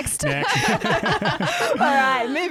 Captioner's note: laughing together